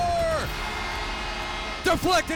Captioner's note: crowd cheering; horn blasting